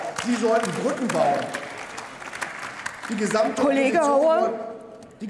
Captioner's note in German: Beifall bei der CDU/CSU sowie bei Abgeordneten der AfD